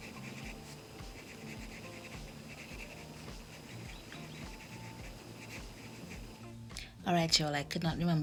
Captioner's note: writing on paper